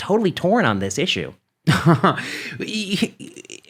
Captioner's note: laughs